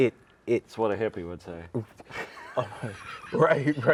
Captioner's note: laughs